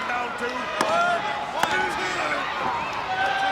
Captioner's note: hands thudding